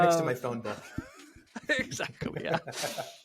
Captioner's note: laughing